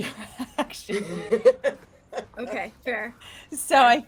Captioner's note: laughing